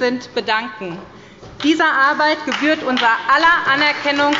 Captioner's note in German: Beifall bei der SPD und bei Abgeordneten der CDU